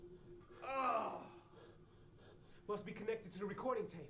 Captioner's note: groans